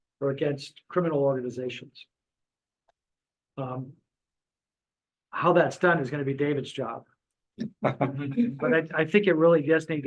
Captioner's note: chuckles